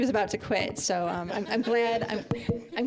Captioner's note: audience laughing